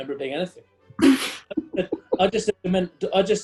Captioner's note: spluttering laughter